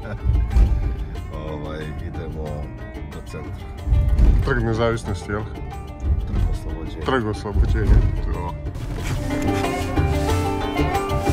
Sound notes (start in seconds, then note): 0.0 laughter